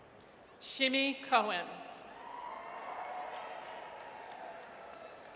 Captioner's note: audience cheers